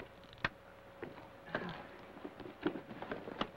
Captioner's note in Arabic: يصفع